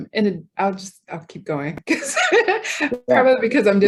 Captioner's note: laughs